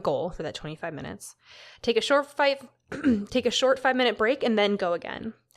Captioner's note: clears throat